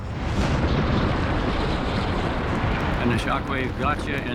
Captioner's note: loud rumbling, forceful wind whipping